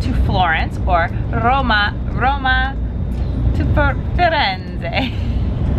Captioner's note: chuckles